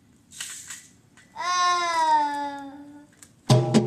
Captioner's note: child groans; drumming